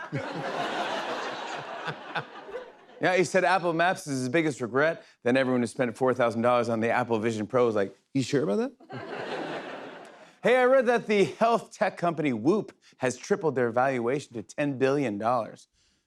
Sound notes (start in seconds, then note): 0.0 laughter; 8.8 laughter